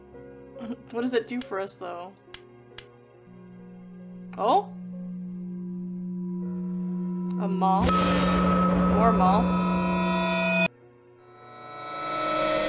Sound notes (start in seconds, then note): 0.4 laughs; 6.8 humming, Loud Pulse; 9.9 humming